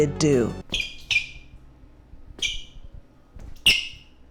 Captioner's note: sneakers squeaking in silence